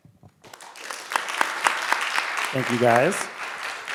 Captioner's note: people clapping